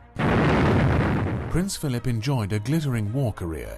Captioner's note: voiceover